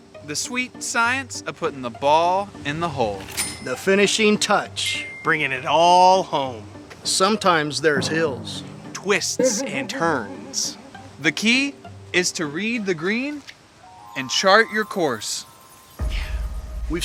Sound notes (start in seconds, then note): 5.0 ding; 5.0 ding!; 8.6 bong!; 10.6 boing!; 13.8 harp